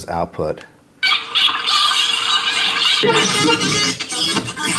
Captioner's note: dolphins squeaking